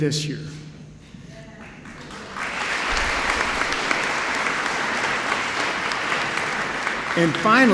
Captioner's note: applause